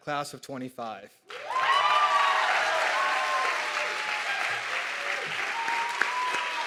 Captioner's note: audience clapping and cheering